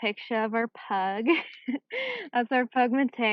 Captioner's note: chuckles